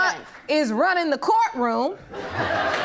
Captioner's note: audience laughing